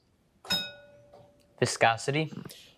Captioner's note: bell dings